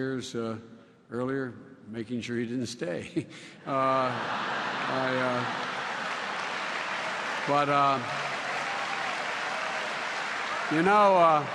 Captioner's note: laughter